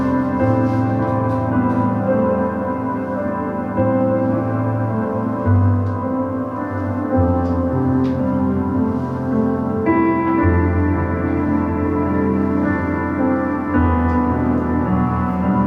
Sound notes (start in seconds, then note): none